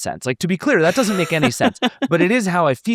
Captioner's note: laughs